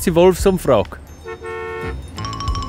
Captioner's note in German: Bus hupt